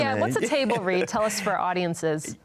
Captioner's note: laughs